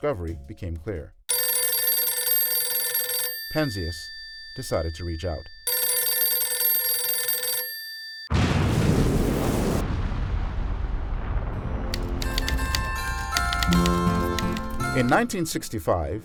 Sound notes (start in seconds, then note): 1.3 phone Ringing; 8.3 explosion